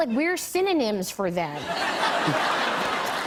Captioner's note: laughter